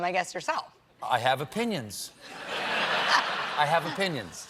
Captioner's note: laughter